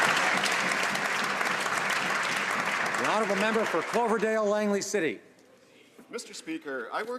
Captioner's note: some Applause